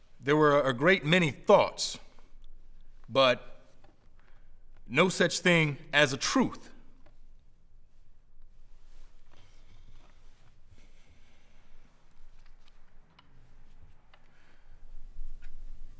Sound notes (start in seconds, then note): none